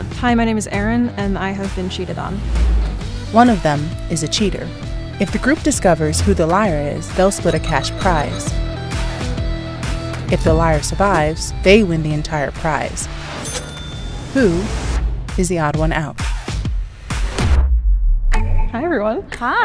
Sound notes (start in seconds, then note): 13.4 cash register rings